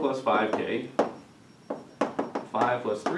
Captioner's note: chalk tapping